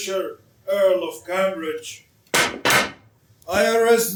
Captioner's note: sticks pound on ground twice